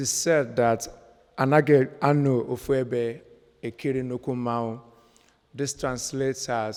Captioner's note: speaking in foreign language